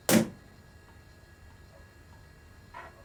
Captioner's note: thud